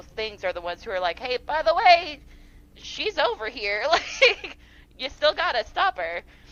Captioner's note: laughs